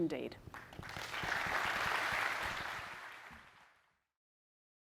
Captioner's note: audience applauds